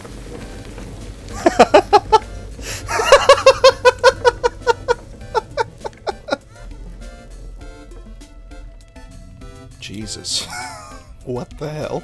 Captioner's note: laughter